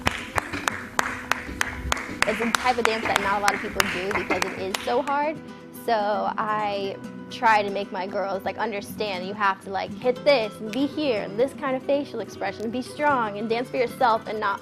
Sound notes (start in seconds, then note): 0.0 clapping